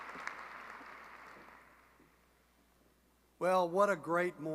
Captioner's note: applause